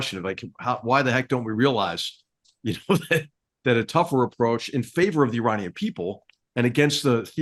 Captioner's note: laugh